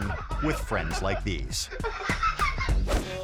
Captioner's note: friend laughing; air whoosh; friend laughing